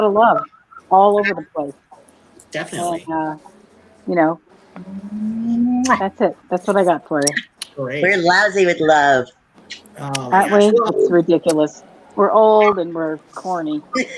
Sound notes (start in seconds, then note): 6.0 all blowing kisses; 13.9 laughter